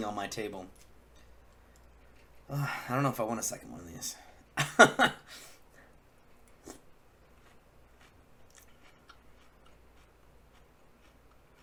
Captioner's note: laugh